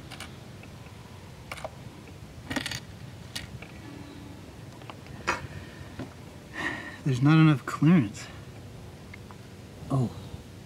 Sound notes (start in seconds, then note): 6.5 sigh